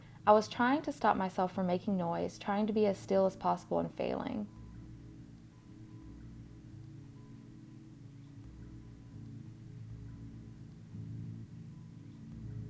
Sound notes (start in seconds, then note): 6.7 pause